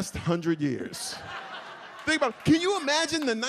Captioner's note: audience laughs